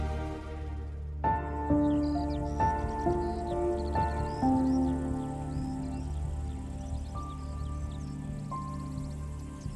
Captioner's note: birds singing